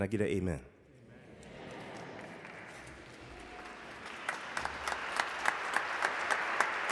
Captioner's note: audience applauding